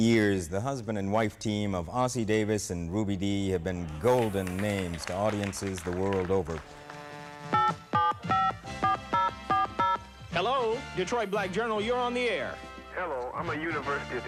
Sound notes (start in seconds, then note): 7.5 telephone beeping